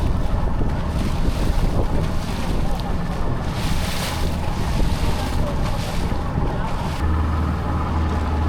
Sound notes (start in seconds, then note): 0.0 wind blowing